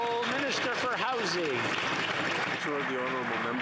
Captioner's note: some Applause